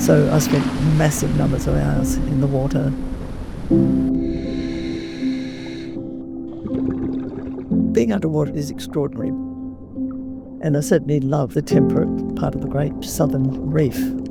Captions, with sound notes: So I spent massive numbers of hours in the water. [ scuba inhale ] [ bubbling ] Being underwater is extraordinary. And I certainly love the temperate part of the Great Southern Reef.